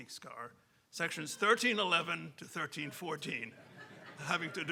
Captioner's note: audience laughing